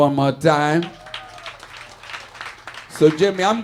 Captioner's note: audience cheering and applauding